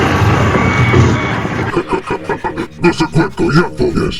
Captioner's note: laugh